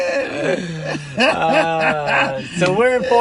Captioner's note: laughter